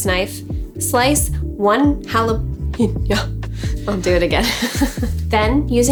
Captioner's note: laughing